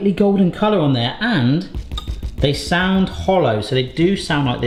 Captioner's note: scone banging